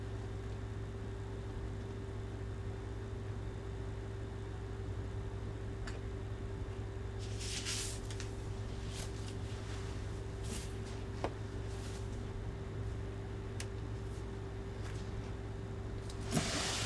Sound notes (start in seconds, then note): 0.3 air conditioner humming continues; 7.2 wig rustling; 12.4 air conditioner humming continues